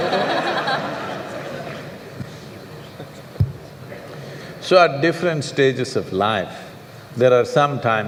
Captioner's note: laughter